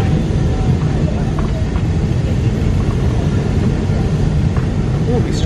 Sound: engine rumbling continues

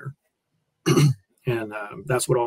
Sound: coughs

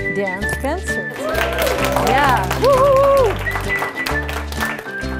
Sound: cheering

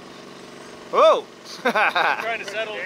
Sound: laughs

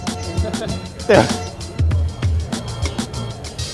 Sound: laughs

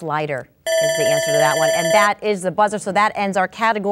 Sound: buzzing

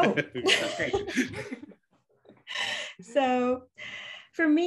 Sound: all laughing

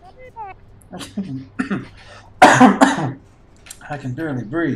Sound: coughs

